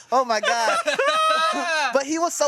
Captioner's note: everyone laughs